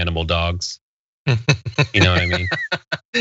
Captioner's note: laugh